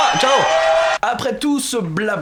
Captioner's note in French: acclamations